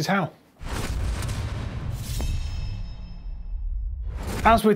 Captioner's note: dramatic booming